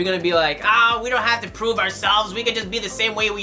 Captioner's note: nerdy voice